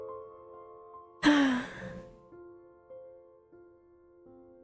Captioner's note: ROSE sighs